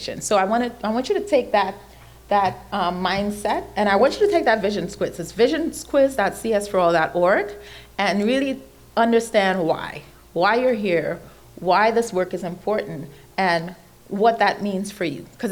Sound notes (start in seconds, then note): none